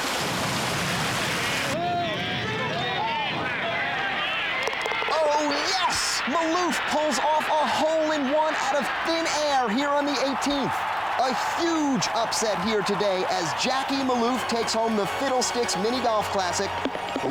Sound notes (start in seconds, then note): 1.9 crowd murmuring; 3.7 cheering